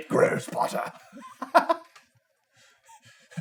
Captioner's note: laughter